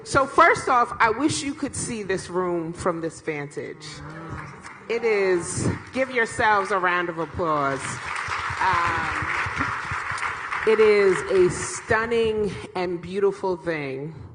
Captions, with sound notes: So first off I wish you could see this room from this vantage. It is give, yourselves a round of applause. [Applause] It is a stunning and beautiful thing